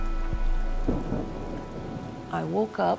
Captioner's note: thunder, rain pelting